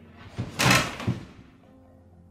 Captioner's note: thump